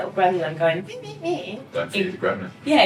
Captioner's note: mock whining